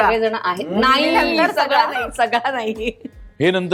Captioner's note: laughter